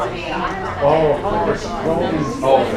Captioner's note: audience Talking